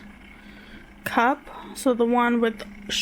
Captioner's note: none